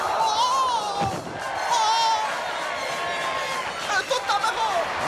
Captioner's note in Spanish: ovación